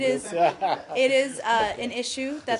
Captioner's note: laughter